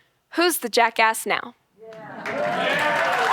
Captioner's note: audience applauding